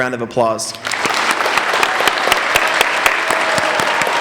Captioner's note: applauding